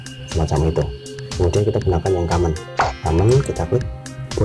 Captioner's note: click